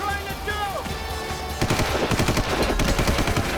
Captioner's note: gunshot